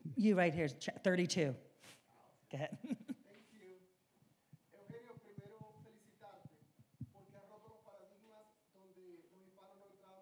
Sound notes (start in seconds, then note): 5.6 speaking in Spanish